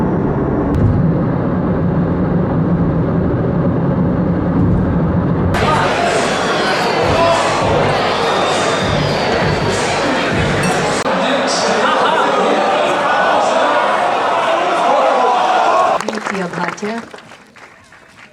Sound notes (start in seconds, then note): 12.2 crowd gasping